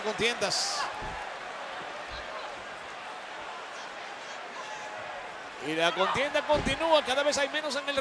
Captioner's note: applause